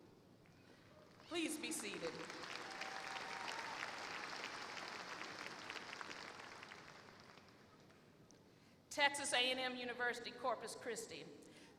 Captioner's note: applause